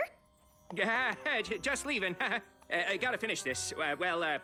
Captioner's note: chuckles